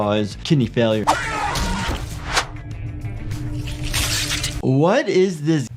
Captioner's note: blood spraying; animatronic screaming